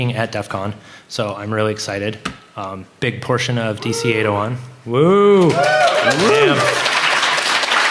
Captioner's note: applause